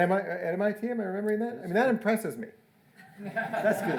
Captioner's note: audience laughing